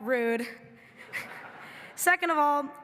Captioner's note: everybody laughing